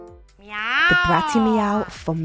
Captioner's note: piano playing; meowing